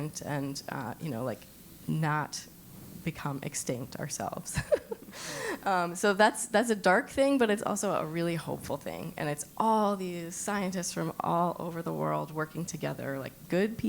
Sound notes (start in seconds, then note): 4.6 laugh